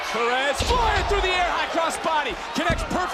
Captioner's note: crowd chants, "roxy"